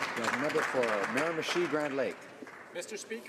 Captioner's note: some Applause